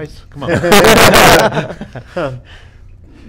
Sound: group laughs

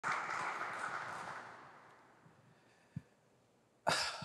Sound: audience clapping

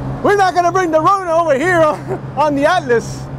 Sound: laughs

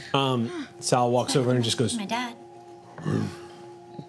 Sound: growls

